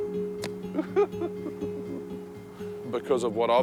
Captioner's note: laughing